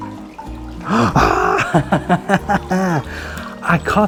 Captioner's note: Cowboy Jack laughs